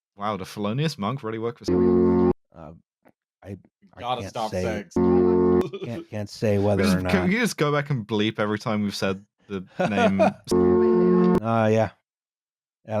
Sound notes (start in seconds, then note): 1.7 ♩ flügelhorn ♩; 4.8 ♩ flügelhorn ♩; 9.6 laughs; 10.5 ♩ flügelhorn ♩